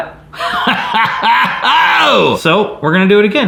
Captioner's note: laughing